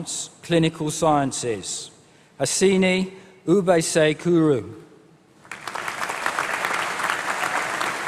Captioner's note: applause